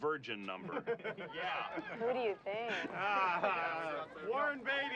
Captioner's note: laughter; laughs